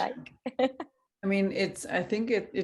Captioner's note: laughing